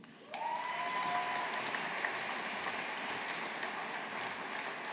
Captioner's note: audience applauding